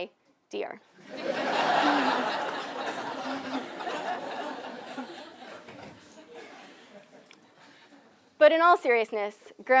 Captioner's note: laugh